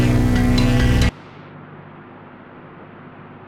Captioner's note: fan blows